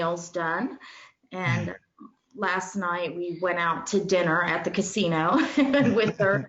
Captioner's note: laughs